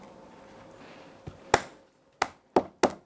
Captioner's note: hammering